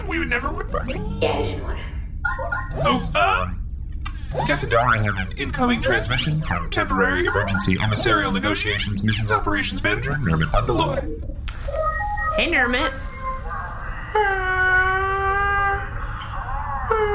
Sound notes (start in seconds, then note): 2.2 incoming transmission beeps; 14.1 crying